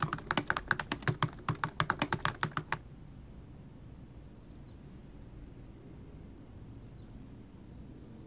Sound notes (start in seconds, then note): 0.0 tabs clicking; 5.3 birds chirping